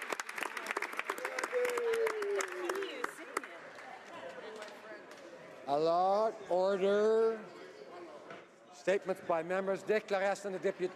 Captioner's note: applause